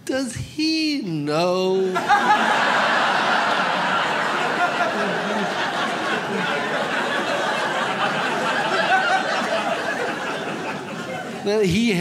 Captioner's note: audience laughs